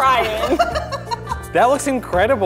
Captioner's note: laughing